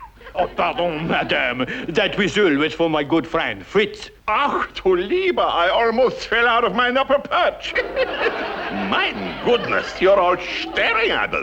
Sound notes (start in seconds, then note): 4.0 German accent; 7.6 laughs